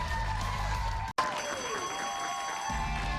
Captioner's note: cheers and applause